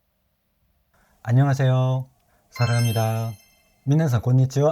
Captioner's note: Korean